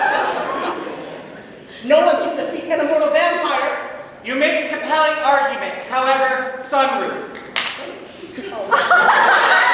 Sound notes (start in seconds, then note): 7.4 claps hands; 8.6 laughter